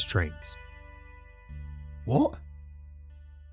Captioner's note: exasperated